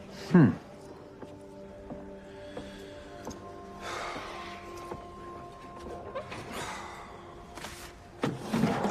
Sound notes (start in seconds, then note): 6.4 exhales